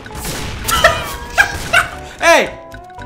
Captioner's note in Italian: risate